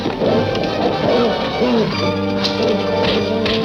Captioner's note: dog growling